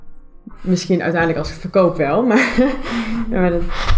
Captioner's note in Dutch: lacht